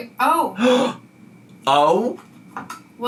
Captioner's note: gasps